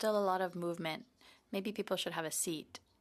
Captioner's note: speaking in French